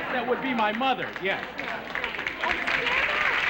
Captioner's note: applause